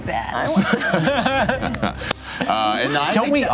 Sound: laughter

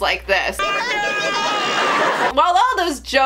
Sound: Kermit screams

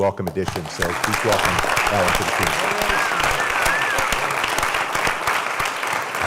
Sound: applause

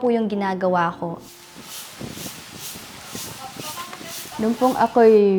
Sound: wind gusts

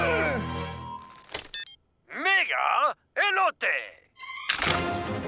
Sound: grunting; toy talking in Spanish

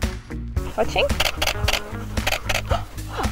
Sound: camera shuttering; sharp intakes of breath

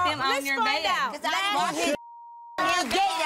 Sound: beep

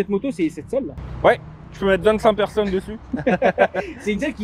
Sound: laughs

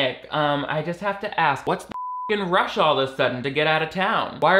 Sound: beep

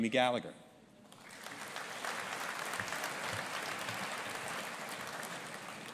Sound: audience applauding

